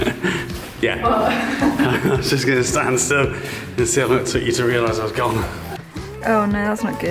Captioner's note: laughing